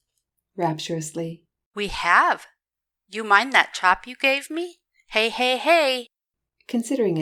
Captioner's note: rapturously